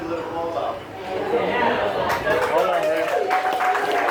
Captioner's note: applause